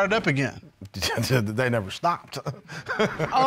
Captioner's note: scoffs, laughs